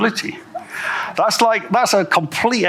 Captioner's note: audience chuckles